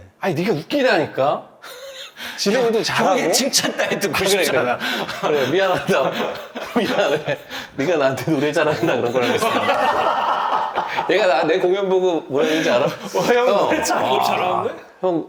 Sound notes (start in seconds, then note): 1.7 laughing in disbelief